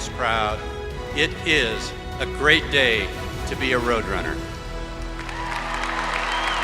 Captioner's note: applause